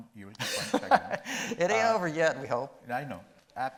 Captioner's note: laughing